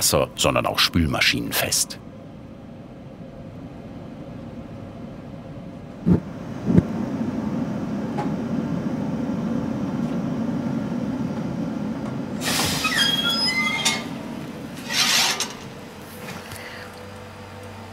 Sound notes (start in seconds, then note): 12.4 squeaks